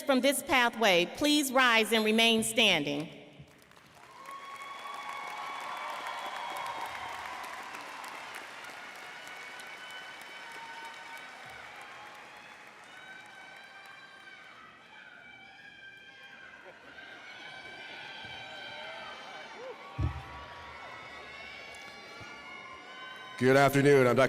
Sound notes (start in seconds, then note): 8.5 applause